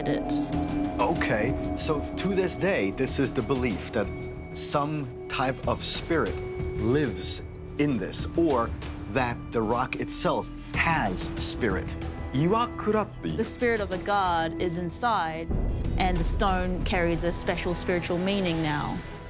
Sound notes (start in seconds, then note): 11.3 speaking Japanese